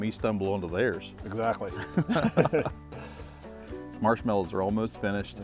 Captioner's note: chuckles